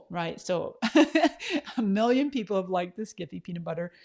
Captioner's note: laughs